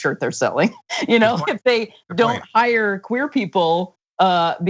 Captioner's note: laugh